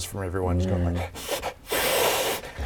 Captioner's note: hiss hiss